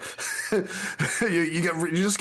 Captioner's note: laughing